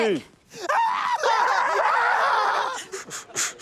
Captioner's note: scream; chuckles